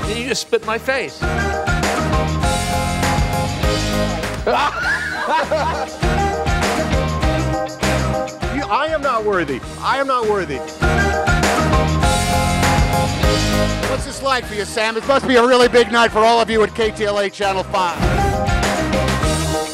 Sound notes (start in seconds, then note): 0.0 upbeat music continues; 1.9 upbeat music; 4.4 laughs; 7.0 upbeat music; 19.4 upbeat music